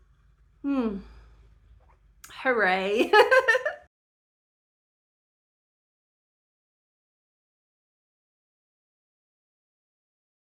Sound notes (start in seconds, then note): 3.0 laughing